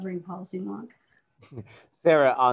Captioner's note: chuckles